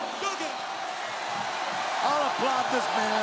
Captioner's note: crowd cheers